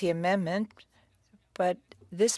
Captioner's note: speaking French